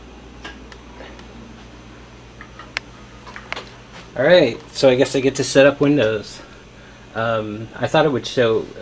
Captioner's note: click